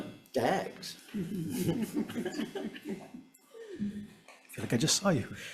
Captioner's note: senators laughing